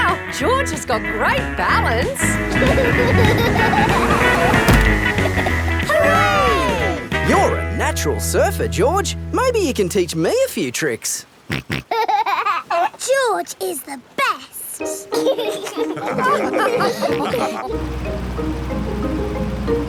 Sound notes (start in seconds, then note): 2.4 laughing; 11.6 snorts and laughs; 15.1 all laugh